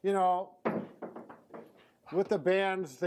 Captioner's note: band clatters against the wall